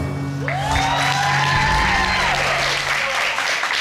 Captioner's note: audience cheering